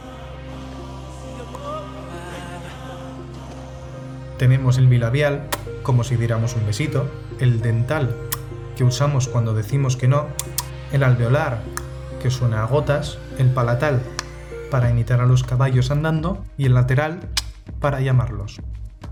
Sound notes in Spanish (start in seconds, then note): 10.4 tsk-tsk